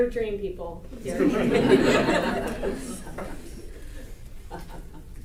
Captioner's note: audience laughter